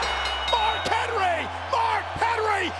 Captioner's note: bell dings